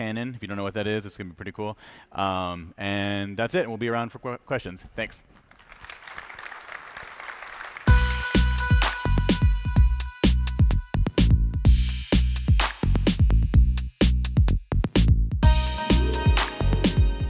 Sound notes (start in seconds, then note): 5.3 applause